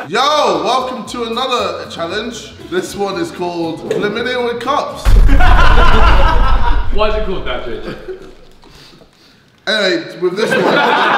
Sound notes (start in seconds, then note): 5.0 explosive sound; 10.9 laughing